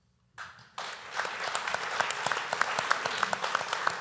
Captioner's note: applause